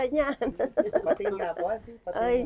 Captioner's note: laughs